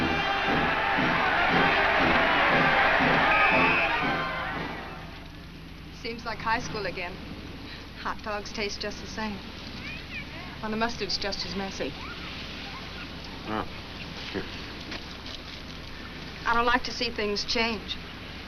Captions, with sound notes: (crowd cheers) (whistle blows) - Seems like high school again. Hot dogs taste just the same. And the mustard's just as messy. - Oh. - I don't like to see things change.